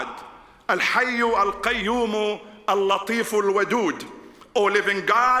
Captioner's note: speaking in foreign language